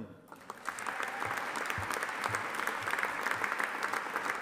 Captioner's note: audience applauding